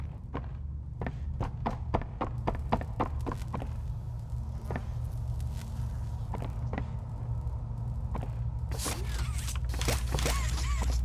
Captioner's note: footsteps